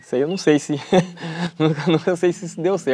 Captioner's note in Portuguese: risos